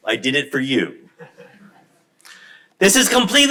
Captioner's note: crowd laughs